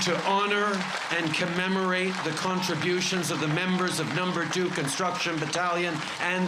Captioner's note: cheers and applause